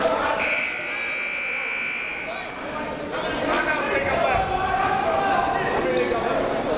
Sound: crowd talking; buzzer goes off

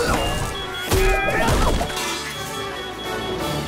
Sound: grunting

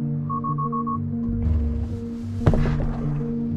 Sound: car beeping; dummy thuds

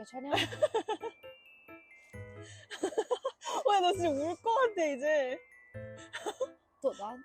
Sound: laughing

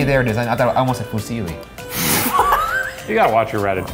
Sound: laughing

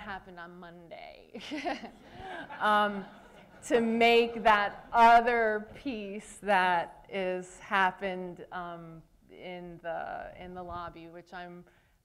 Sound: laughter

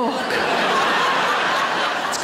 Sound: audience laughs

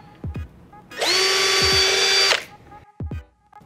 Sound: drilling

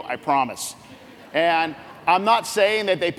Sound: laughs

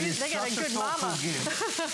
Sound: laughter

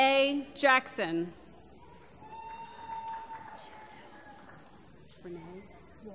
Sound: applause

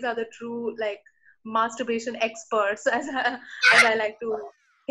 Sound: both laughing

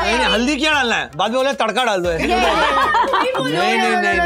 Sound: laughter

